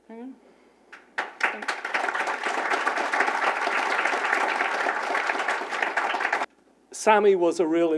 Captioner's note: applause